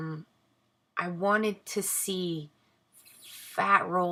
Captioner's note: none